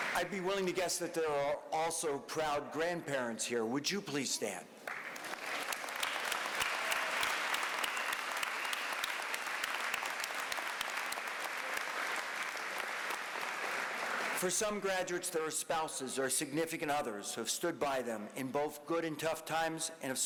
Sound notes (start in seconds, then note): 4.6 applause